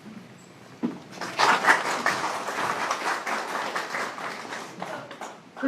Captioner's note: applause